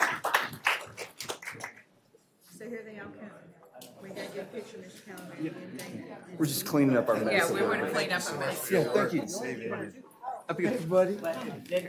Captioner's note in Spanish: aplausos